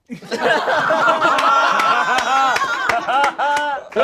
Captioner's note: all laugh